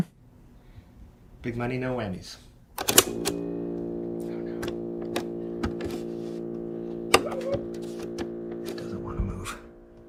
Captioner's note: click, then buzzing sound